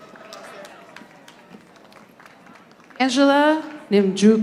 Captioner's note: audience applauding